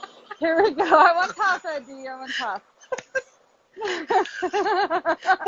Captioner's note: laughs